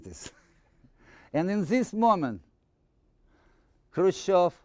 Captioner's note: chuckling